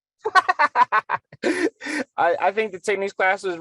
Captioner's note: laughing